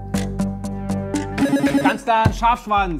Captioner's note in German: Buzzer